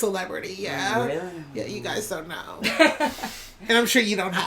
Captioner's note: laughter